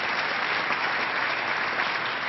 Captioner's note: applause